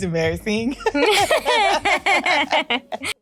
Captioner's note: laughing